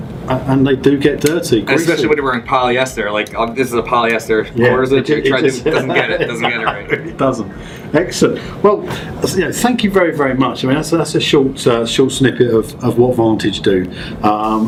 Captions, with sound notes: and they do get dirty, greasy. - Especially when you're wearing polyester. Like, this is a polyester quarter sleeve, - Yeah, it... and you try to... Doesn't get it, doesn't get it right. (chuckling) It doesn't. Excellent. Well, you know, than you very, very much. I mean, that's a short, a short snippet of what Vantage do,